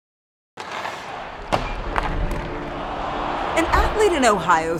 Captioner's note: hockey puck clattering